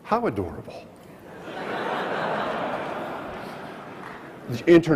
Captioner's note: audience laughs